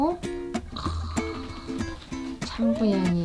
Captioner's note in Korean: 감탄